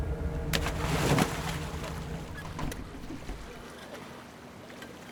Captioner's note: water splashing